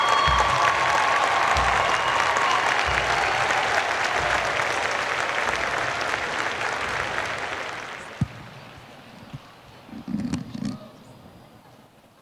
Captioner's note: cheers and Applause